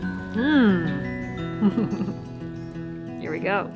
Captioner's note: chuckle